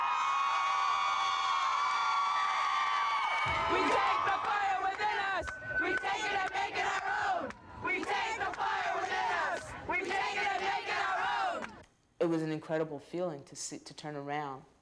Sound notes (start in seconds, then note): 2.6 crowd chants